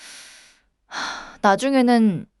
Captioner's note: sighs